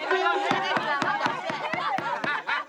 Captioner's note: cheers and laughter